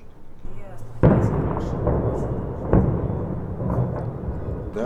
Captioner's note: explosions